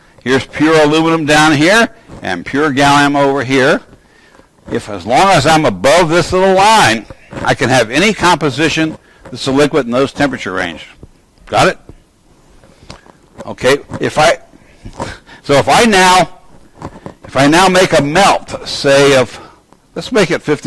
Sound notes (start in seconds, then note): none